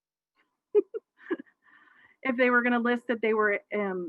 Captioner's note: laughs